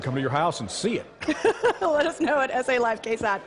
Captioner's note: laughter